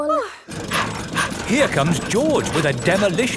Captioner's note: daddy pig panting